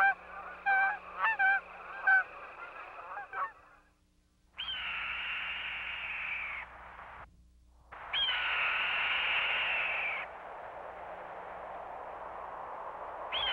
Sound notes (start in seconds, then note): 0.0 geese honking; 3.3 bird of prey sounds